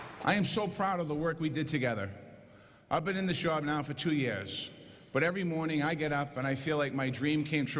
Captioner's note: applause